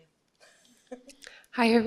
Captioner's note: laughs